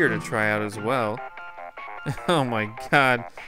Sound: cartoony digital ringtone

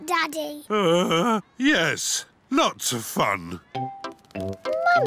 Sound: groans

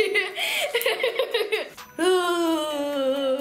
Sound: laughing

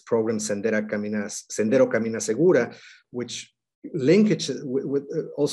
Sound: speaking foreign language

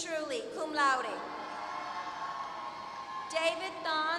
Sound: applause

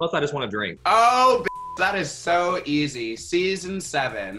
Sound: beep

